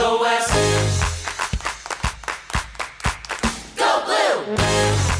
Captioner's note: rhythmic clapping; upbeat music; rhythmic clapping